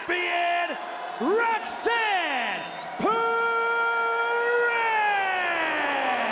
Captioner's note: crowd boos